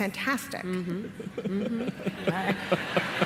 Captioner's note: laughter